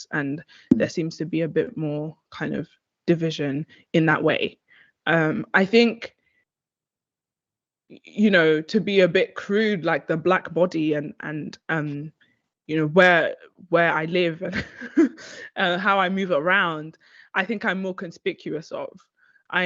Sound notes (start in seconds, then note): 13.6 chuckles